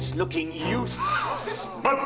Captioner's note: chorus gasps